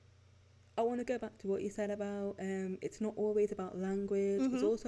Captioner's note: hm hm!